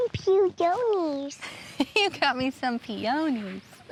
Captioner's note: chuckles